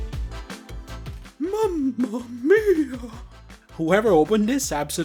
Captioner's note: silly whimpering voice